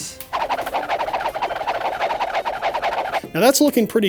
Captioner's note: rapid motion sounds